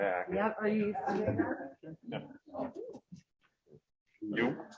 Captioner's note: background chatter